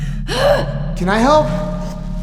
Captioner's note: grunting